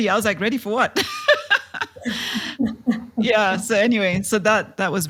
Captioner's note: laugh